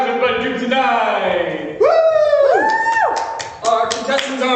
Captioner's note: cheers